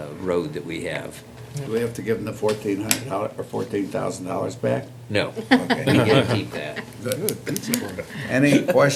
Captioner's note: laughter